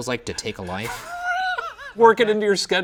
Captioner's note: laughing